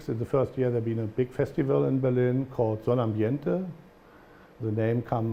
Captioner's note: german